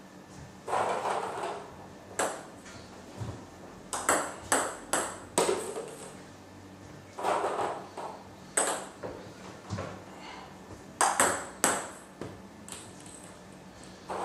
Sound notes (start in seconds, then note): 0.2 balls ping pong hitting continues; 8.9 balls ping pong hitting continues